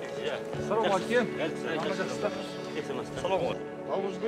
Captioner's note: men chat in Mongolian